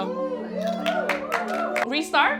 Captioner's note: audience applauding